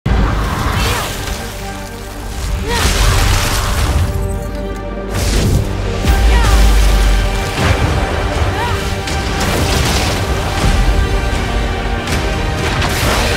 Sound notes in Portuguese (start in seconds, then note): 8.4 grunhidos de batalha